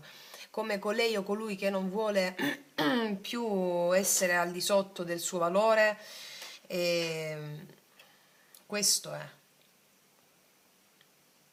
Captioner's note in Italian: schiarire la voce